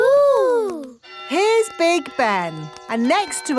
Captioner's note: clock chimes